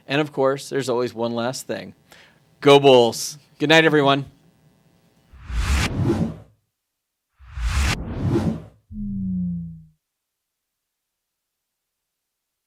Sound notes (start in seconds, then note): 5.6 electronic wooshing; 8.9 electronic tone